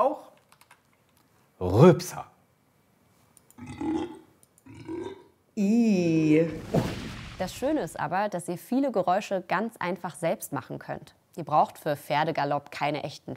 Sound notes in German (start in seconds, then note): 4.7 tiefes laute Rülpsen